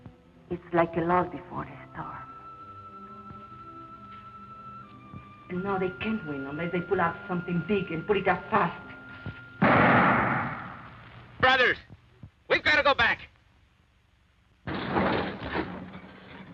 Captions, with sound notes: It's like a lull before the storm. And now they can't win, unless they pull off something big, and pull it off fast. (gun fires) - Brothers! We've got to go back!